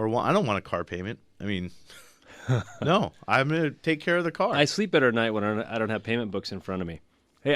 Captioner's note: laughs